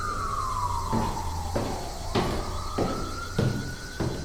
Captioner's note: footsteps